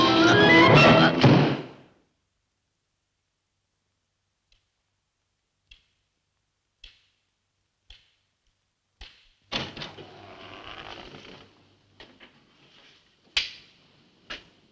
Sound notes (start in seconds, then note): 1.2 book slams shut; 5.4 cane tapping